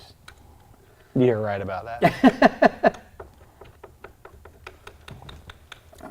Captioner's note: laughter